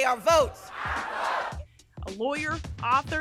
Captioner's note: crowd